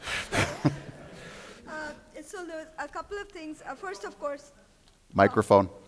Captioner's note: audience laughter